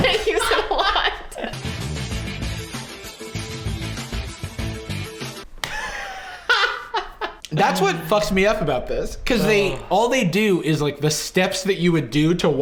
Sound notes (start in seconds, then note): 1.8 upbeat synth music; 5.6 laughing